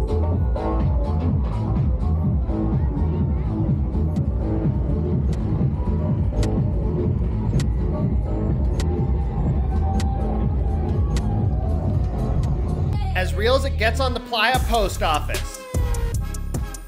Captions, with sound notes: [trampoline springs clicking] As real as it gets on the playa post office!